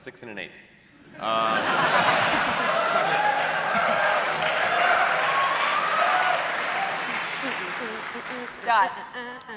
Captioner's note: laughter and applause